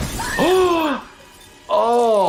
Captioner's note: person screaming; person gasps